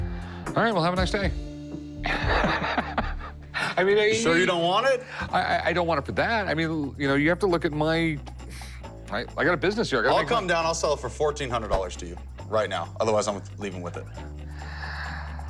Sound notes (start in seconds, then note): 2.0 chuckles